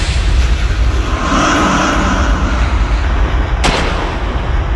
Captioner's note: unearthly moan